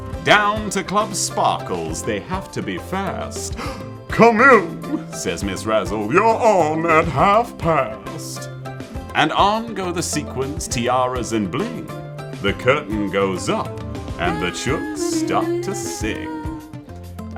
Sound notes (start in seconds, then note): 3.5 gasp